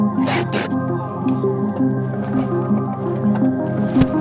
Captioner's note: engine rumbling